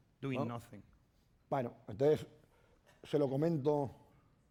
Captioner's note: speaking spanish